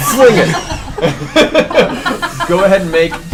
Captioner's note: all laugh